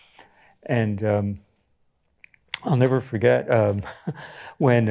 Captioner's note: chuckles